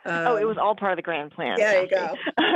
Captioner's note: laughs